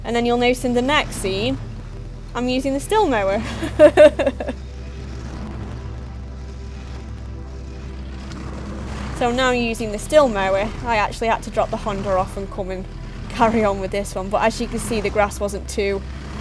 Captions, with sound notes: and then you will notice in the next scene I'm using the Stihl mower. [laughs] So now using the Stihl mower. I actually had to drop the Honda off and come and carry on with this one but as you can see the grass wasn't too